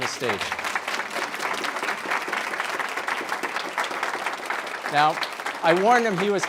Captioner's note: applause